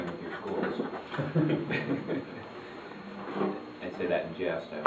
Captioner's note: chuckles